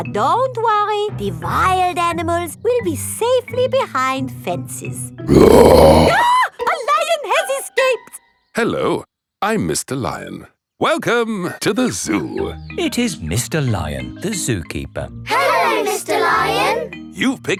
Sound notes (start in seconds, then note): 5.3 roars; 5.3 screams